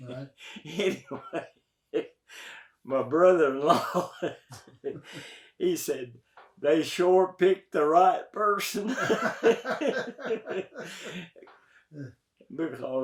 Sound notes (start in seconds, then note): 5.1 laughs; 8.8 both laugh